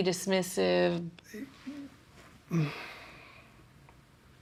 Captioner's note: groans